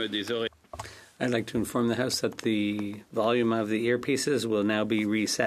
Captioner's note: speaking French